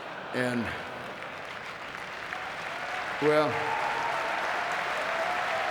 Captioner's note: audience cheering and clapping